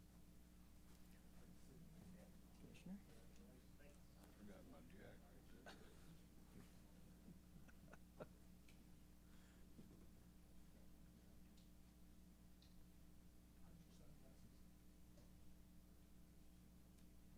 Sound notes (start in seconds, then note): 7.3 chuckles; 7.5 laughs